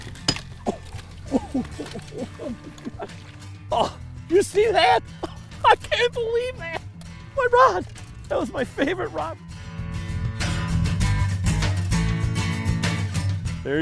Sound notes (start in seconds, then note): 3.7 grunts; 10.1 acoustic guitar music